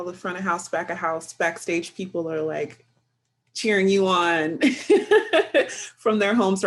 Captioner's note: laughs